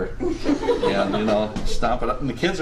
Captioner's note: students laughing